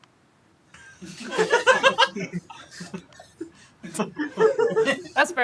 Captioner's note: laughter